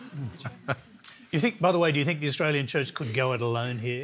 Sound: laughter

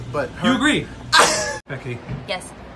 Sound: laughter

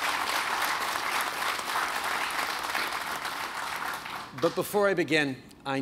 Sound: applause

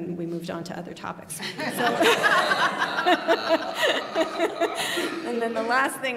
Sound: laughter

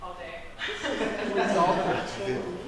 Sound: laughter

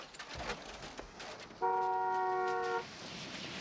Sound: car honking

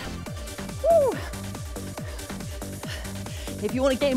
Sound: exclaiming

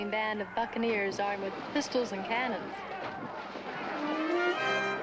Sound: overlapping shouting

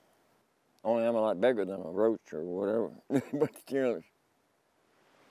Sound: laughing

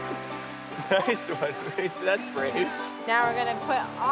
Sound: chuckling

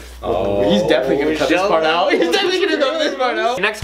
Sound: laughing

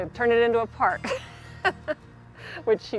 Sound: laughs

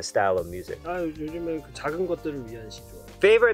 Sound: speaking in Korean

